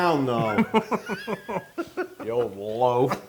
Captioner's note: laugh